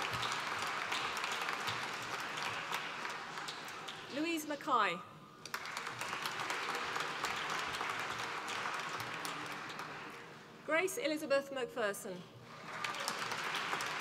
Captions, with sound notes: Louise McKay, (APPLAUSE) Grace Elizabeth McPherson, (APPLAUSE)